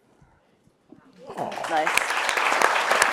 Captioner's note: audience applauds